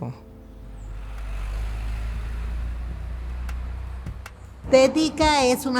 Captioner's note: ruido del bus; bus noise